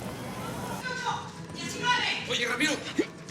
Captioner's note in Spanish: Gritos